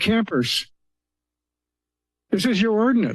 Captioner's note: pause